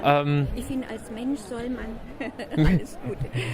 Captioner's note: laughter